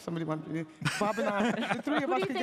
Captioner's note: chuckles